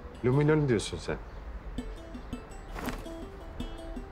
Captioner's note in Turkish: none